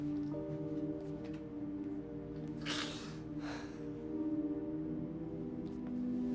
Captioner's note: sobbing